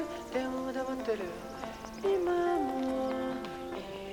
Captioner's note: wind rustling through trees